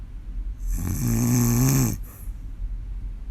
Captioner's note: more snoring